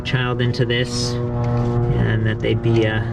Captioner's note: airplane engine roaring